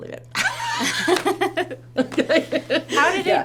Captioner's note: laughs